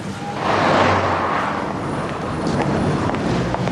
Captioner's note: sound of car passing